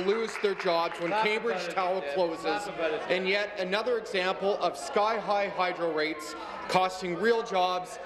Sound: applause

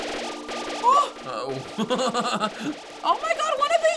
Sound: laughing

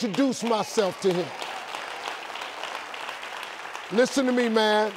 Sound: audience applauding

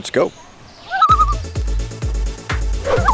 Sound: loon call; loon call

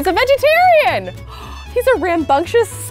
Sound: gasps

